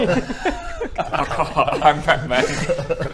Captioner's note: ca-caw